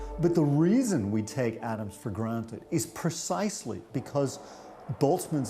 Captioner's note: particles reverberating